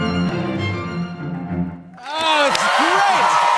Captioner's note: cheers and applause